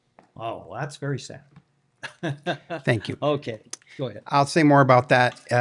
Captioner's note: laughter